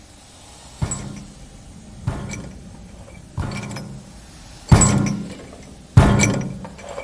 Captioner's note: creaking footsteps; banging against bars